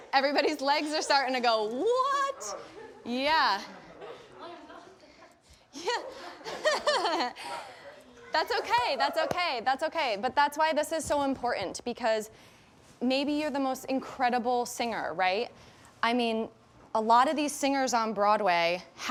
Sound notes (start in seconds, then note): 4.3 contestants chattering and laughing; 5.7 laughs